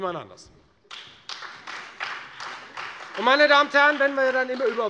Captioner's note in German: Beifall Freie Demokraten und vereinzelt SPD